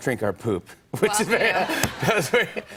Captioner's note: laughs